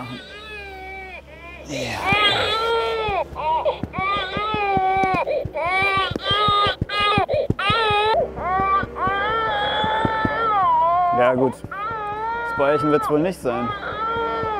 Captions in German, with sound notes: Vielleicht wenn es ein Bäuerchen machen. (Baby weint.) (Klopfgeräusche) Ja, gut, das Bäuerchen wird es nicht sein.